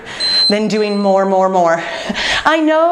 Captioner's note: timer beeping